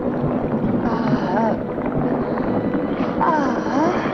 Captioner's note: Liz moaning